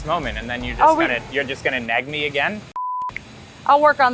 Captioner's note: beep